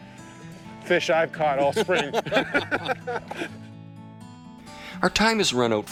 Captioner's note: laughing